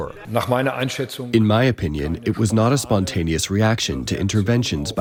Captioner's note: through translator